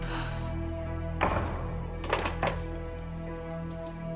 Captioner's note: gasping; clattering